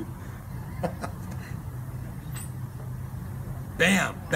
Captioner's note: laughs